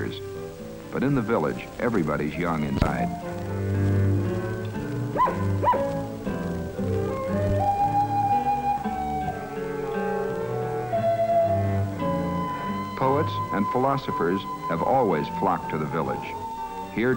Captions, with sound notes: but in the village, everybody's young inside. (dog barking) (gentle instrumental music) Poets and philosophers have always flocked to the Village.